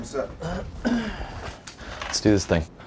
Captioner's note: clears throat